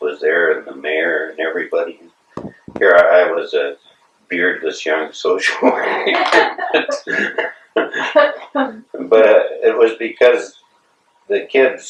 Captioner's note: laughter